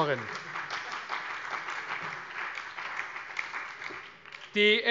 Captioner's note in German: Allgemeiner Beifall